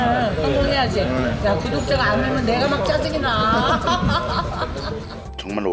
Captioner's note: laughing